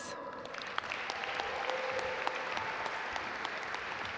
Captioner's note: audience applaud